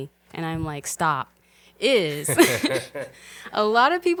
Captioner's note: both laughing